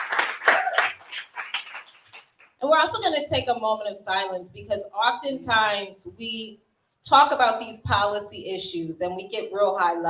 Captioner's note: applause